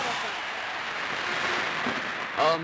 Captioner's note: crowd applause